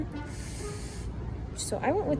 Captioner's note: sucks in air